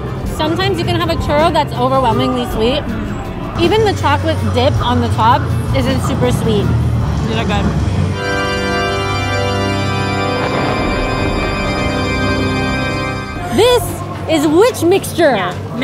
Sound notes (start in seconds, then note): 7.9 organ music; 10.1 thunder sounds